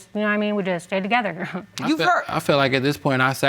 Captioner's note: chuckles